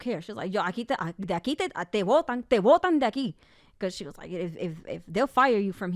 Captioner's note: speaks in Spanish